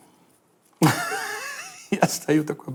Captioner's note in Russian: смеется